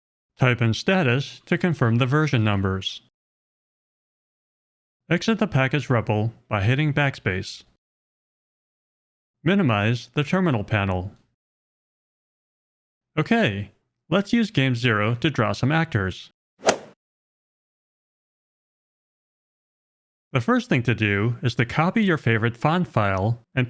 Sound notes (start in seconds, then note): 16.6 golf swing sound effect